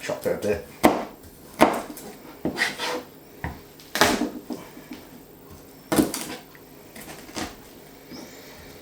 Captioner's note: garlic being crushed, squealing silently